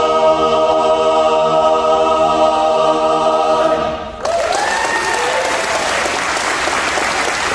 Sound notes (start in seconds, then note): 4.2 applause